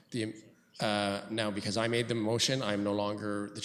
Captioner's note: clerk speaks off mic